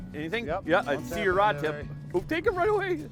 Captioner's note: voiceover